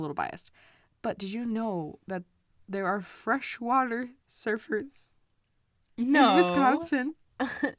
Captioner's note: laughs